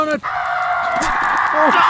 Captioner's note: John screams